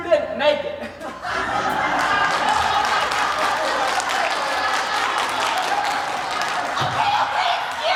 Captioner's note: applause